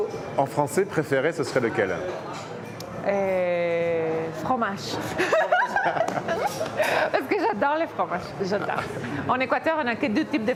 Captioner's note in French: rires